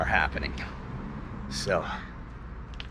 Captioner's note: street noise